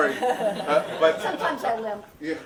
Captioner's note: audience laughing